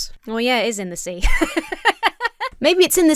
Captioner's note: laughs